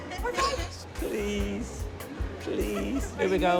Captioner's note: laughter